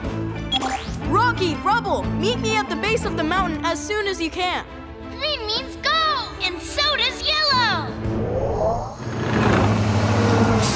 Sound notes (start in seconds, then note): none